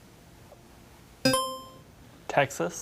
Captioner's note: buzzer chiming